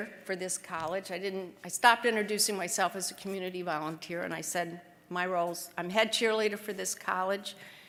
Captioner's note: none